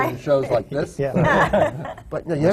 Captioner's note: laughter